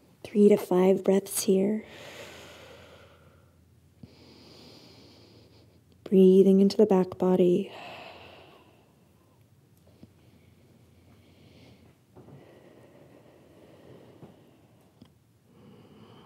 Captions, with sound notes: Three to five breaths here. (inhale) Breathing into the back body. (deep breaths)